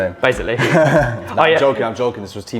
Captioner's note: laughs